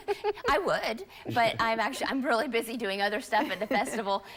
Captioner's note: laughter